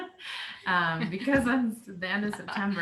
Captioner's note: laughing